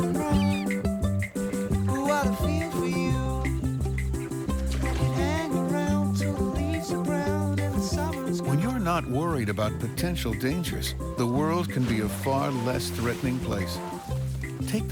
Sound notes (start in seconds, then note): 0.0 bird Squawks